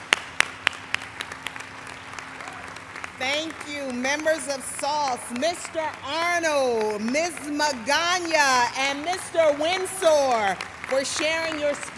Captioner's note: applause